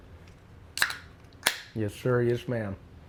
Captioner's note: beer can opening